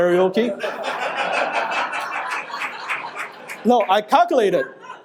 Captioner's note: audience laughing